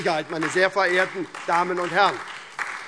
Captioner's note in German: Beifall SPD, Freie Demokraten und DIE LINKE